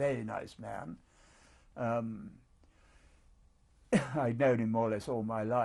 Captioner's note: pauses for 3 seconds